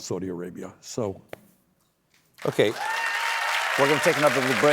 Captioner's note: cheers and applause